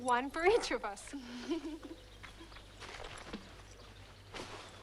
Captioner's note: both laugh